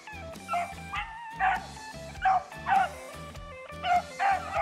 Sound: dogs barking

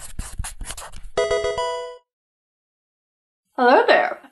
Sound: marker writing; Pokemon game sound

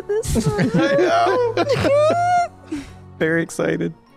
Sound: laughs

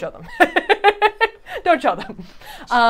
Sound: laughing

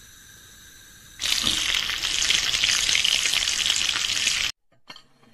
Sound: frying Chicken

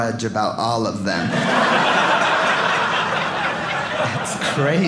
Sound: audience laughing

